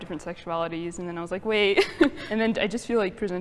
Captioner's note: laughs